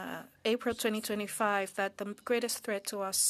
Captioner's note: speaking French